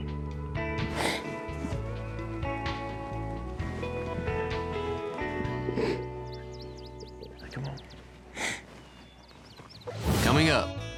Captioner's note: sniffs